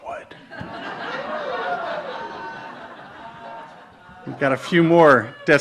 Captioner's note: audience laughs and cheers